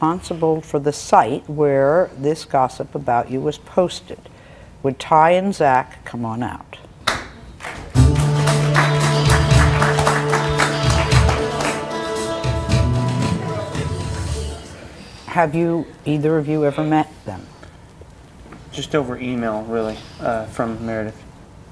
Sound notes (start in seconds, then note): 7.6 audience clapping; 7.9 bright music